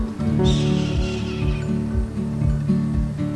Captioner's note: bird screech